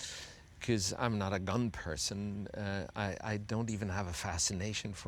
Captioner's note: none